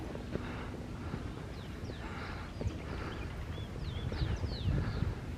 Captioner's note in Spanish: Bosque El Panul y el sonido de los pajaritos